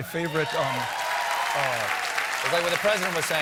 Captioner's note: applause